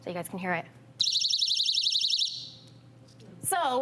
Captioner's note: loud alarm